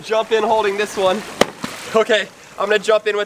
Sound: smacking and splashing

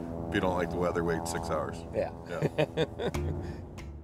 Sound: chuckles

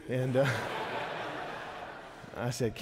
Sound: congregation laughing

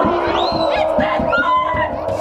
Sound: both screaming

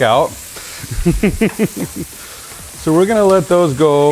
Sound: chuckles

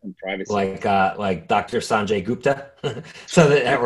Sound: chuckles

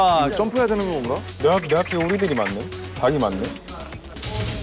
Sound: quack quack

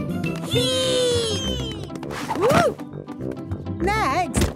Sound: thumps

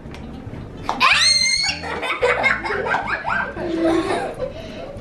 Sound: screams

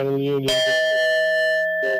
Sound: bell dings

